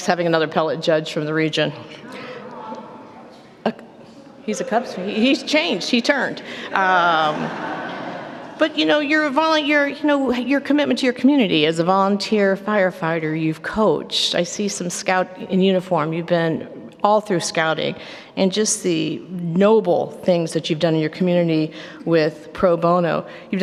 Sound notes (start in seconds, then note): 1.9 audience reaction